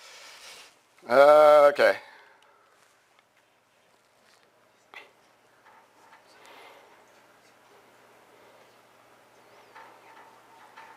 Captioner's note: pause